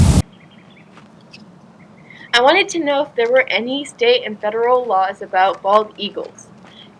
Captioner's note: birds chirping